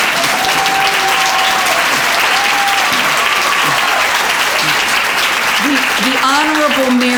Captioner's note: applause, cheering